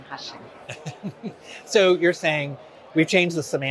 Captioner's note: laughs